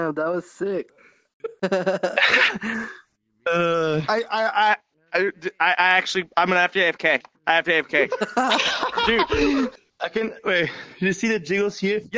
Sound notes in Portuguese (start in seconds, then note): 1.5 Risos; 8.0 Risos